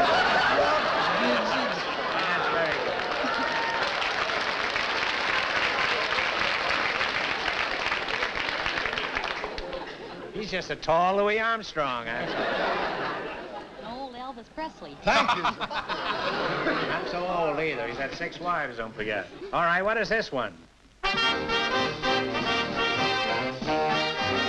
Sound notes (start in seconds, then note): 0.0 laughter; 1.9 applause; 15.1 laughter